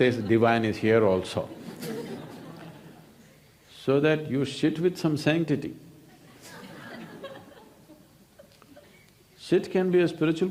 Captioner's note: laughs